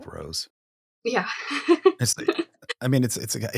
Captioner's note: chuckles